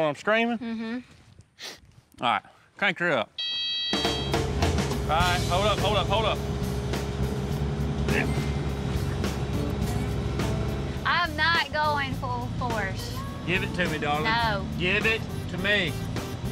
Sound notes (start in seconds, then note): 3.0 sniffs; 3.4 excavator beeps; 7.4 excavator motor whirring